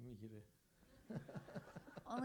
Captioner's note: crowd laughs